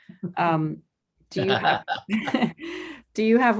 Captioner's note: both laughing